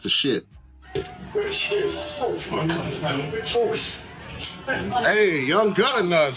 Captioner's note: background bar noise